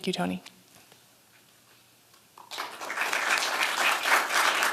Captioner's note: applause